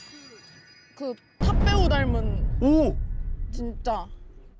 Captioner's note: sound effect: even better than expected